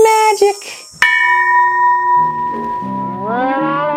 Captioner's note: gong rings